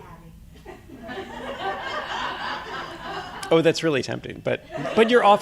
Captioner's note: audience laughing